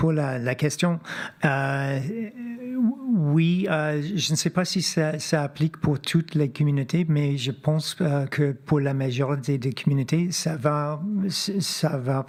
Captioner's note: speaking French